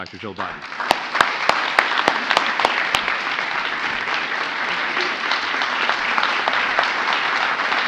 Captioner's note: applause